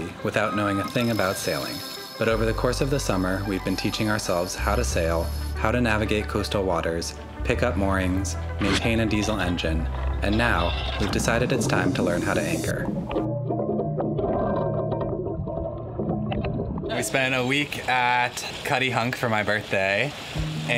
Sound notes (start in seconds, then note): 13.3 metal rattling